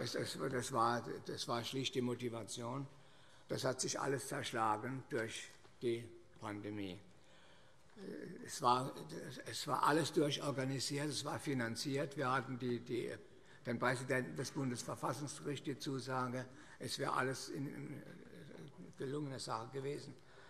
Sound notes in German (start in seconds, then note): none